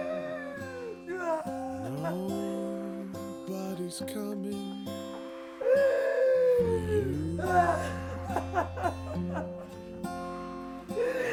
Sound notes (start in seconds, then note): 0.0 Sue shrieks; 7.5 Sue sobs